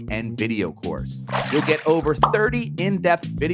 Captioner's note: water splashes